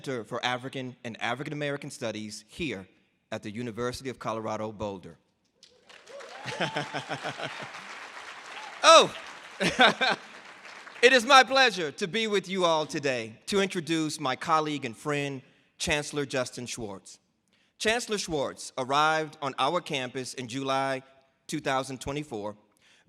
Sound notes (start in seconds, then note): 5.7 audience applause; 6.2 laughs; 7.8 audience applause; 9.6 laughs